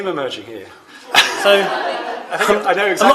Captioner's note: laughter